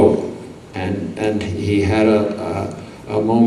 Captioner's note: none